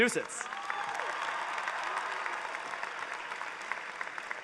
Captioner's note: cheering